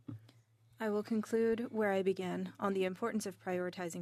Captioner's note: speaking French